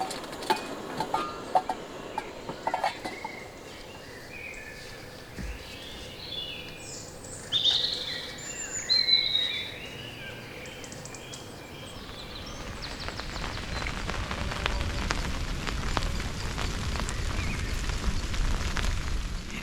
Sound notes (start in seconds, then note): 3.4 birdsong; 13.3 rain